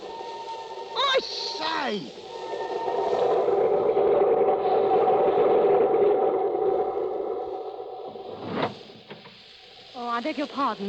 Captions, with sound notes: I say. [wind howling] Oh, I beg your pardon.